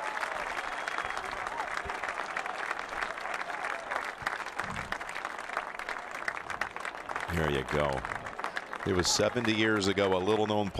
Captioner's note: applause